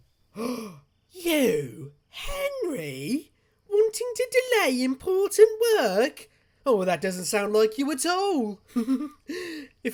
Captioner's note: gasps